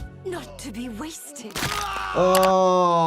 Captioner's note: person yells in agony